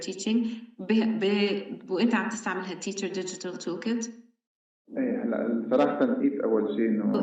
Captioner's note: speaking arabic